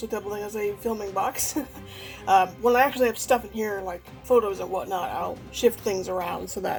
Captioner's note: laughs